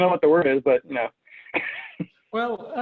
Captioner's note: laughs